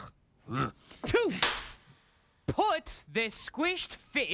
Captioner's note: cracks pointer